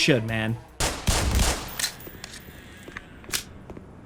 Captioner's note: gun fires